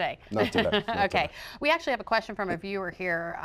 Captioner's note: laughter